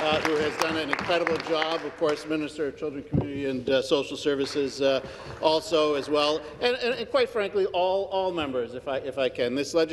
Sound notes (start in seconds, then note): 3.1 some Applause